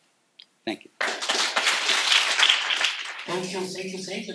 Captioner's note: applause